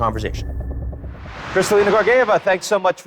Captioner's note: air whooshing